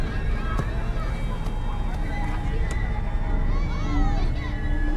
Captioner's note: ball thuds; ball thwacking; foreboding music